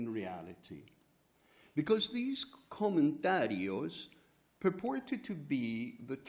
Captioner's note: spanish; spanish